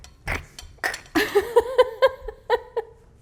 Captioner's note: gurgles; chuckles